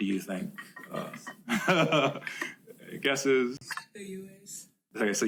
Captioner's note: laughs